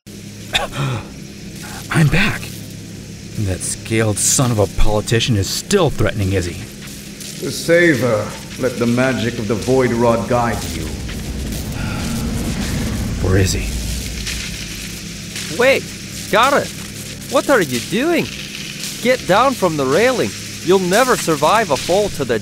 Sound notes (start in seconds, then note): 12.9 whisper; 14.1 magic crackling intensifies